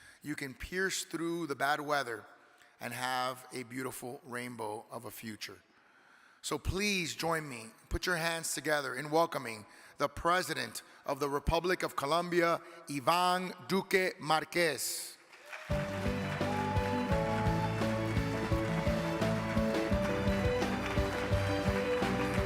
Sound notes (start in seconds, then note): 15.2 audience clapping; 18.8 uplifting music